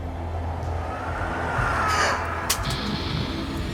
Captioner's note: ghostly screaming; swooshing; flashlight thumping